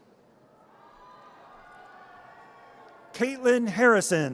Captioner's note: audience cheers